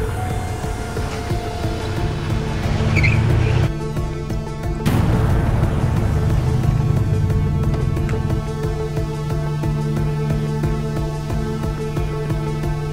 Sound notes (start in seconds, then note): 2.5 tires screeching; 4.4 intense music